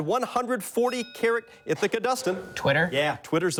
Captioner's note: bell dings